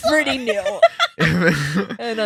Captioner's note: laughing